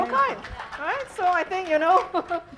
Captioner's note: applause